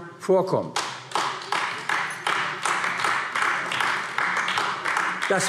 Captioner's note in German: Beifall AfD